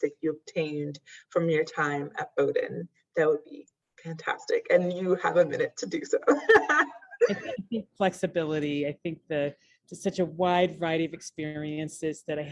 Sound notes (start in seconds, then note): 6.2 laughs